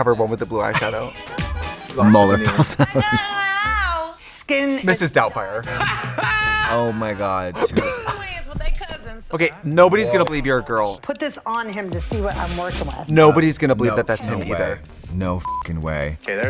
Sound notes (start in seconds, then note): 7.9 Trixie laughs; 15.4 beep